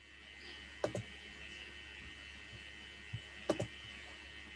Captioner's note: keyboard clacking